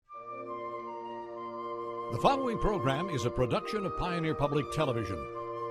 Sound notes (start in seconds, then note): 0.0 peaceful music; 2.4 voiceover; 5.4 peaceful music